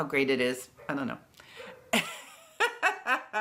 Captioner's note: laughs